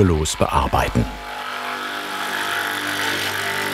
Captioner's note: drilling noises